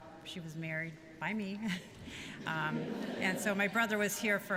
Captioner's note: laughter